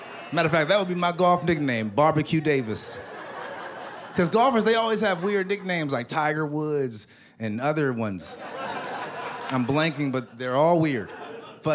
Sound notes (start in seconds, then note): 8.3 laughter